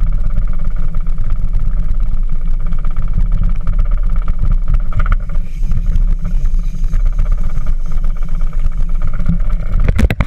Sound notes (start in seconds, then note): 5.2 spinning reel